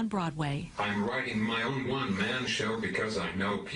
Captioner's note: voiceover